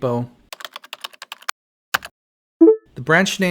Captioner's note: typing